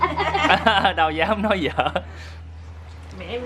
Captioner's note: laugh